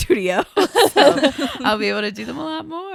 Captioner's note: everybody laughs